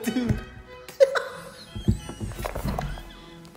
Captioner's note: deflating tire noises